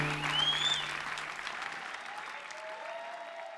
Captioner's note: cheers and applause continue